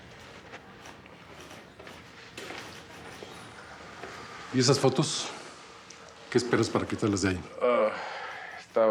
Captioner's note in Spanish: tecleo